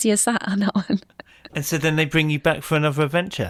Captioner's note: chuckles